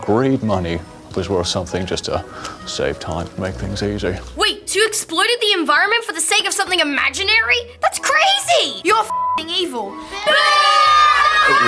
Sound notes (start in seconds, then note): 9.0 beep